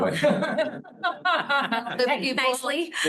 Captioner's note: laughter